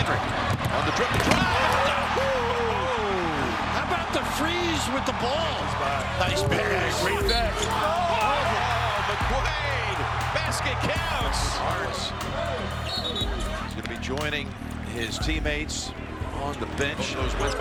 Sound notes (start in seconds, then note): 2.0 crowd cheers; 6.1 scuffing; 7.2 whistle blows; 17.3 shouting